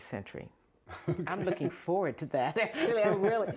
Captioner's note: laughter